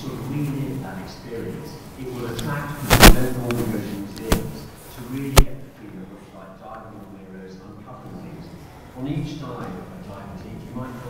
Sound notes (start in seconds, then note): 0.0 speaker's voice echoing on video; 3.2 speaker's voices echoing on video